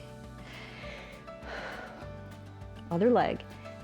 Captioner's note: inhales and exhales